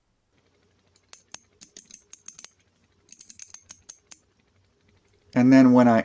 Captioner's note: ratchet sounds